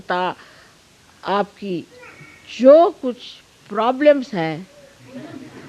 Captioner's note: laughter